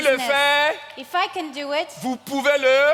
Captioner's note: continues in French